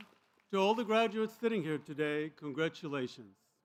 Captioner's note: applause